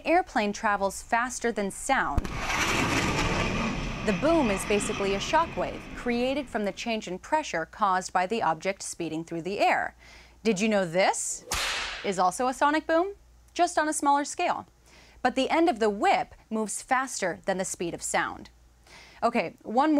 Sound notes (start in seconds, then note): 11.4 whip cracking